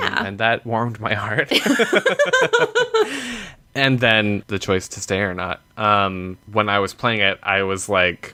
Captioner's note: laughter